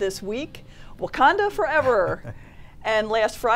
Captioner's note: laughs